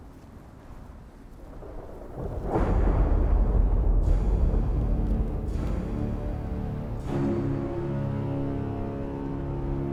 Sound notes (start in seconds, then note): 1.2 thunder rolling; 4.7 dramatic music